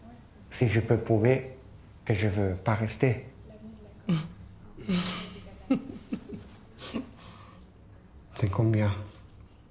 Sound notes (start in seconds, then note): 4.8 chuckling